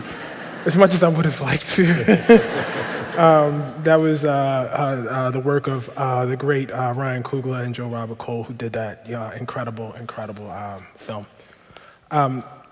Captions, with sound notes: as much as I would've liked to. [Laughter] That was the work of the great Ryan Cugla and Joe Robert Cole who did that incredible film.